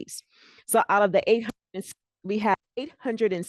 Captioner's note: breaking voice